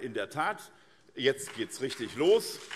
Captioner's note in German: Beifall SPD